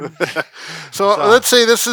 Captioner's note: men laughing